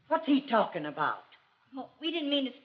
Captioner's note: none